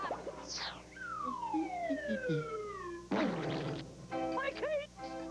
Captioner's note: splat